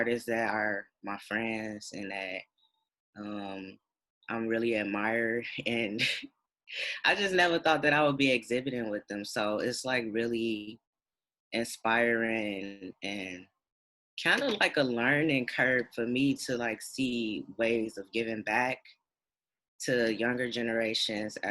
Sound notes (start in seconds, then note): 5.3 chuckles